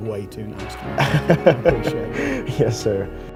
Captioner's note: laughs